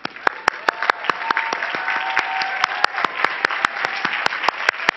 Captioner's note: cheering and clapping